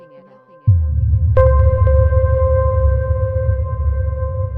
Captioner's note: water rumbling